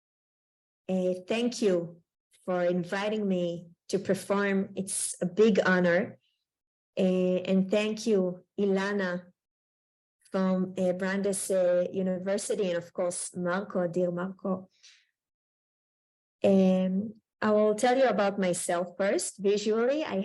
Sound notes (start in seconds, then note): 13.6 Hebrew